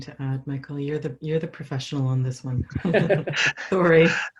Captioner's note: both laughs